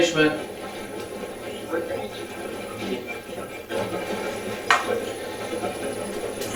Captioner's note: static playback transmitting